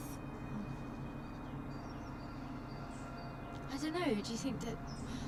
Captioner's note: birds chirping